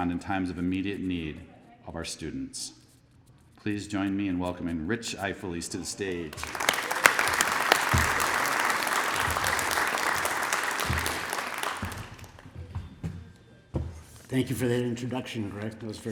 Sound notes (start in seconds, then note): 6.0 applause